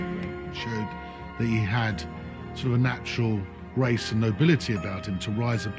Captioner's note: voiceover